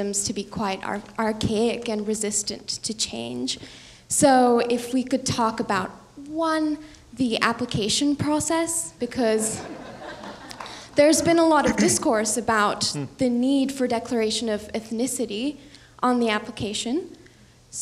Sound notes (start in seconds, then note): 9.5 audience laughing